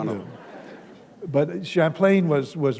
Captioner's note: laughter